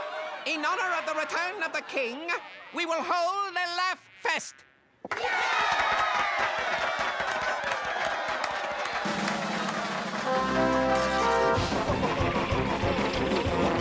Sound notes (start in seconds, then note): 5.3 cheering and clapping; 8.6 crazy circus music starts again